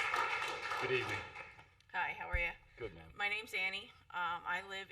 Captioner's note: applause